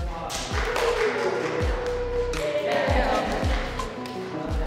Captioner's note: clapping and cheering